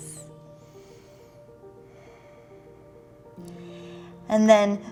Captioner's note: deep breathing